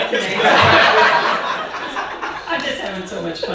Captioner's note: audience laughing